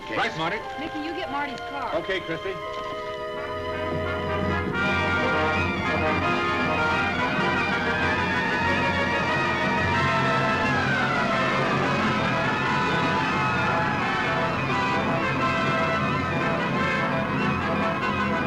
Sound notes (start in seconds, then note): 4.6 dramatic music; 8.0 sirens blaring